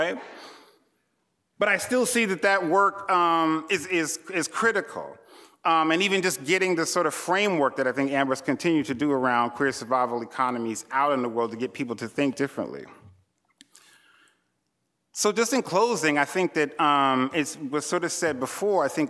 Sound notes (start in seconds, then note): none